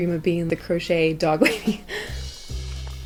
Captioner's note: laughs